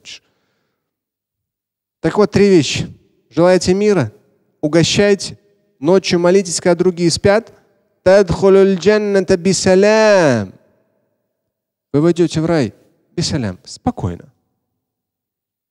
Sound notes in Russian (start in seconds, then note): 8.1 Говорит на арабском; 11.9 говорит на арабском